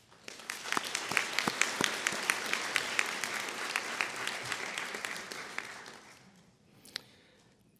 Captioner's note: applause